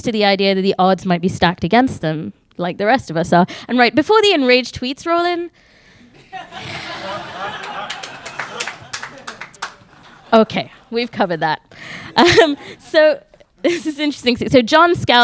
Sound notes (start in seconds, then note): 6.1 audience laughing